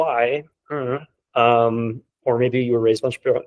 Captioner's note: humming